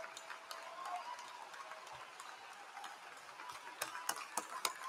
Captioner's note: applause